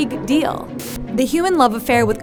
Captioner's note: static